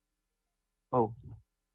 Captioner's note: audio drop